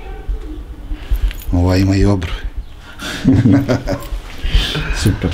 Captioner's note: laugh